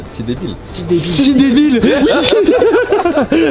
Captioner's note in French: rires